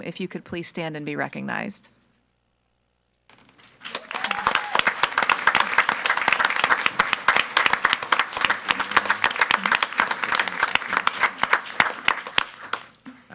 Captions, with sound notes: If you could please stand and be recognized. (audience applauds)